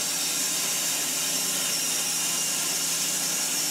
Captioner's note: saw whirring